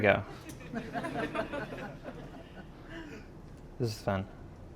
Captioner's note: audience laughing